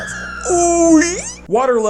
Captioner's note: strange whale noise